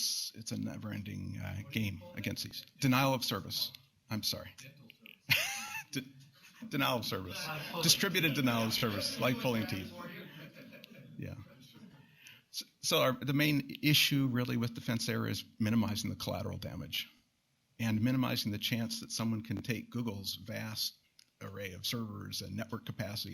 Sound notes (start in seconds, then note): 7.2 laughs